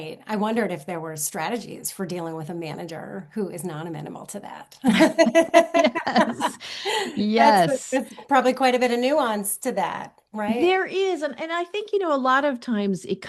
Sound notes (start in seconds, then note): 4.8 laughter